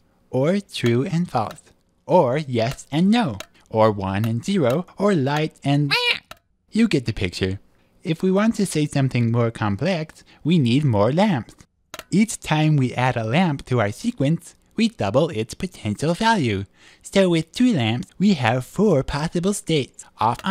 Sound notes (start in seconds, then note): 5.9 interrupting squawk